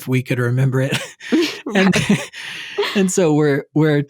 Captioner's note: chuckles